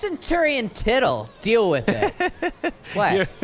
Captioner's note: laughs